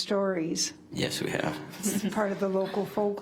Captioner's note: chuckles